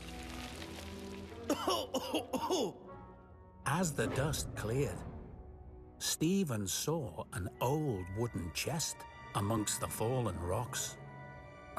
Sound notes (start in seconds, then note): 1.4 coughing